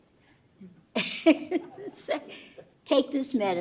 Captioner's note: laughter